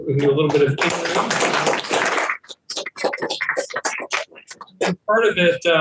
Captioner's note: panelists applauding